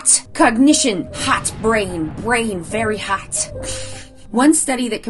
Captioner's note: giggles